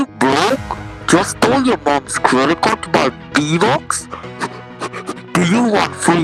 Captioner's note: heavy breathing